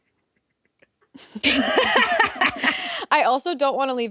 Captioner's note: all laughing